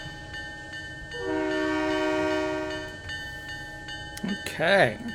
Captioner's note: train whistle